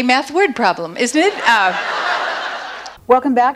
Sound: audience laughs

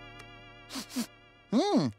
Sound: sniffing

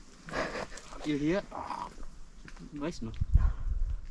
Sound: growling

